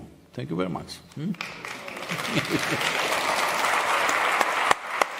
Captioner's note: applause; laughs